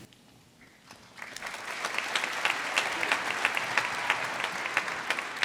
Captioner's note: audience applauding